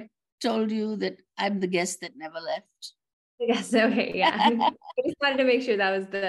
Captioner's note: laughs